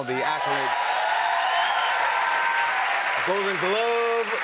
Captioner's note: applause